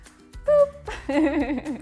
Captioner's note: laughter